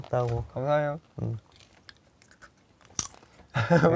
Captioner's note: an oddly awkward silence fills the room